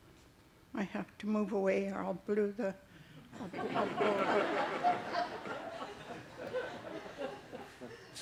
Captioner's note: laughter